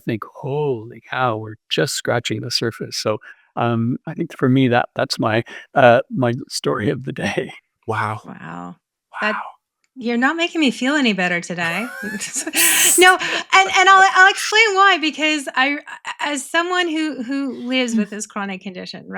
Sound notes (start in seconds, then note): 11.6 all laughing